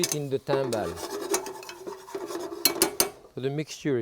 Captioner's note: pan scraping; spoon tapping